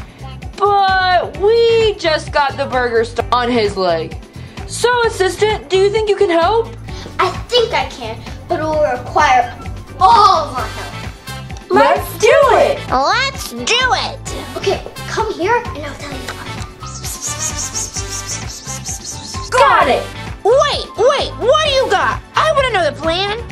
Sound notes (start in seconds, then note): 16.9 whispering